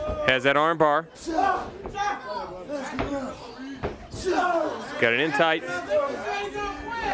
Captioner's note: crowd chatter